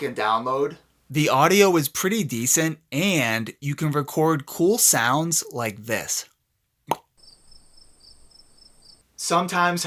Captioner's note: pop